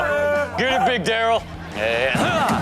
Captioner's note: crowd laughs